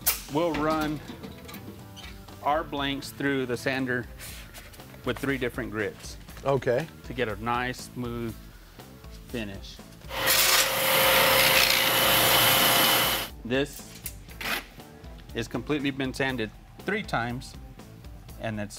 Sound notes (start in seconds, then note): 10.1 grinding